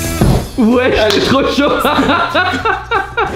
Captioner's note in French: rire